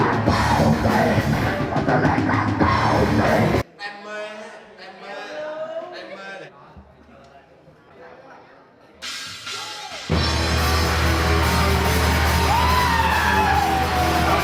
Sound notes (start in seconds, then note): 4.0 speaking in foreign language; 9.1 metal music